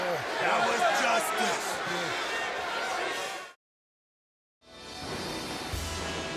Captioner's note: Undertaker groaning